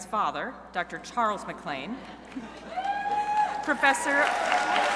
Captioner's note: crowd cheering